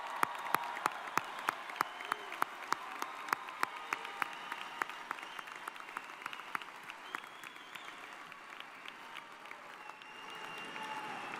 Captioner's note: applause